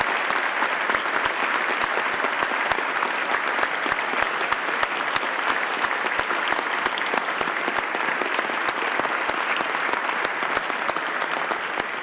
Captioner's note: applause